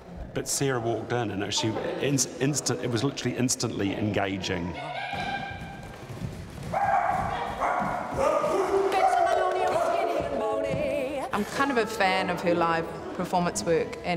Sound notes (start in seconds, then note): 4.8 yipping; 6.7 barking; 8.9 singing